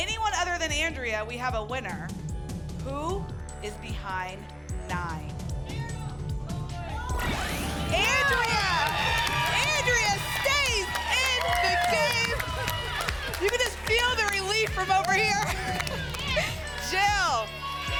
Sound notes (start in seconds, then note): 12.3 applause and cheering; 15.5 laughs